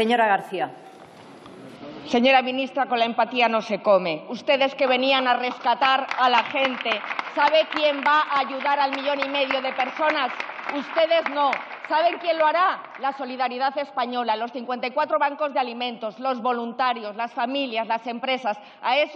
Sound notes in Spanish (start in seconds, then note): 3.9 Aplausos; 10.8 Aplausos